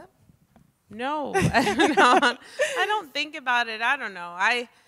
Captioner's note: laughs